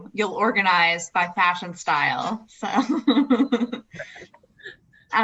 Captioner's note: laughs